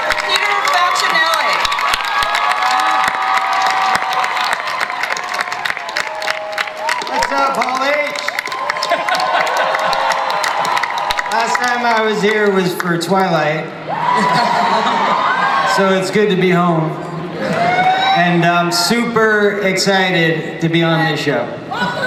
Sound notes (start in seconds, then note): 2.4 audience cheers; 10.2 laughs; 11.6 audience cheers